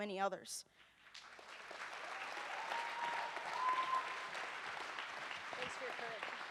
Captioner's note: audience cheers and applauds